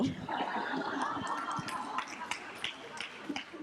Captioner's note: group laughs